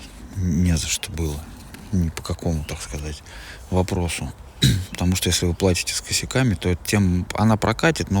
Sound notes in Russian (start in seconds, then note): 4.6 откашливается